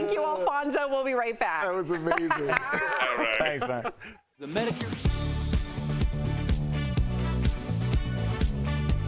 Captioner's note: laughter